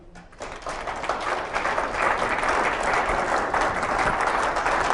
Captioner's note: applause